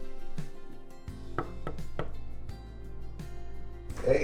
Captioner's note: hand knocking